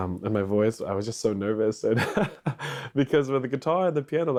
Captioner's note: chuckles